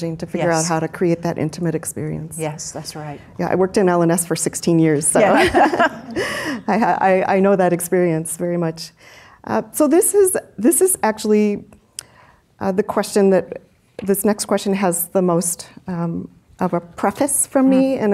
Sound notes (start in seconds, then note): 5.2 chuckles